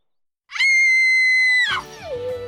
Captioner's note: screaming